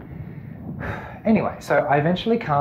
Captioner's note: breathes deeply